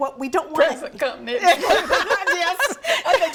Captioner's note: laughs